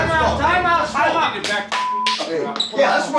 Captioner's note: beep